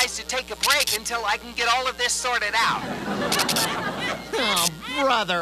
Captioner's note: audience laughs